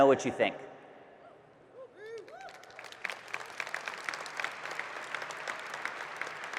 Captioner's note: audience cheering and clapping